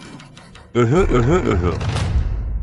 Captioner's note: cough